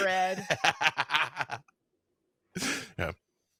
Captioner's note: DM laughs